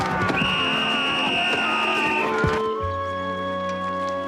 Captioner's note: whistle